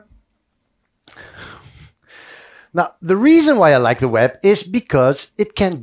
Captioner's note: laughs